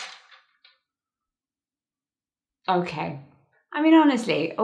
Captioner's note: lights fall